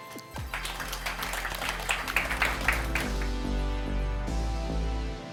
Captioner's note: applause